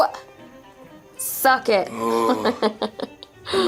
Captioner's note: laughing